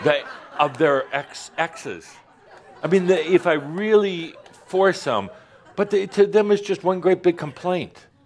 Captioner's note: more laughter